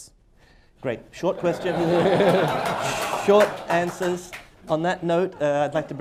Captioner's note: laughter, applause